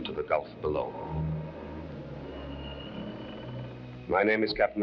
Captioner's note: bridge creaking